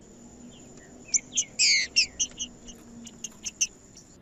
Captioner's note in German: trinca ferro cantando